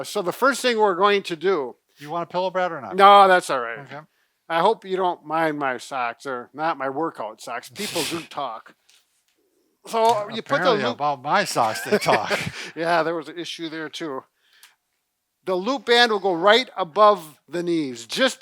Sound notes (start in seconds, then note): 11.6 laughing